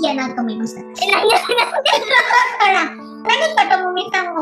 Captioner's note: laughs